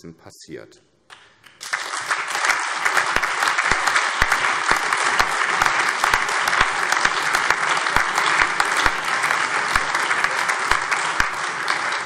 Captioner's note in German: Allgemeiner Beifall